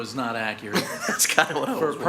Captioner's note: chair laughs